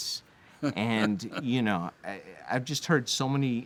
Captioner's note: laughs